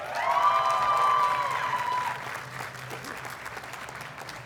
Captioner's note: audience cheers and applauds